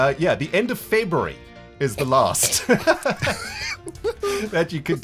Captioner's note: chuckles